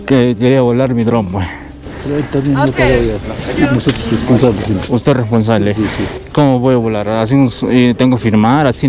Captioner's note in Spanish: resoplido